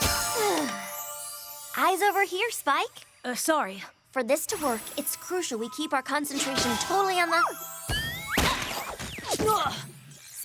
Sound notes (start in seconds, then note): 0.1 poof!; 7.9 poof! strike!